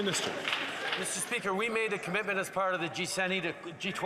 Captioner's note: applause